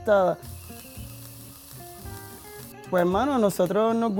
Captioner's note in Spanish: chisporroteo